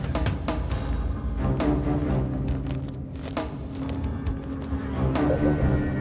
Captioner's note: suspenseful music; footsteps crunching